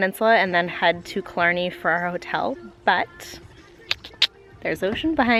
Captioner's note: clicks tongue